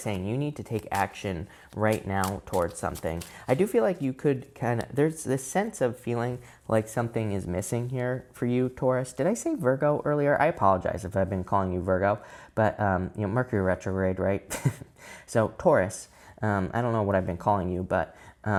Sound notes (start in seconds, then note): 14.5 chuckles